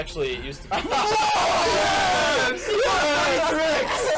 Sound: laughs

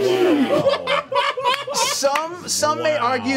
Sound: all laugh

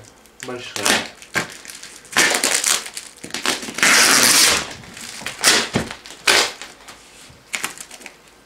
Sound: the sound of tearing paper, tape and other things

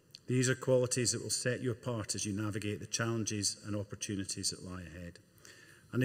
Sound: none

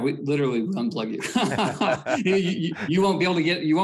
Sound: both laughing

